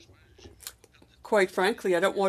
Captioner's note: speaking FRENCH